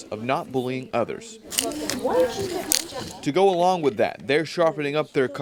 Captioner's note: sound of pencil sharpener